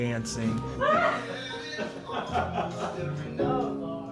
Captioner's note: both laugh